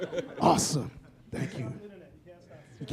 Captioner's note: laughter